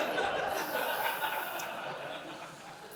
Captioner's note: laughing